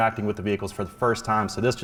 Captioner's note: none